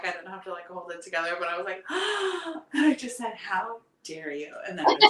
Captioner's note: gasping